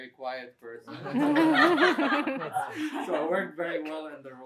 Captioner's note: laughter